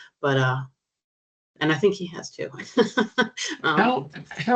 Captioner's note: chuckling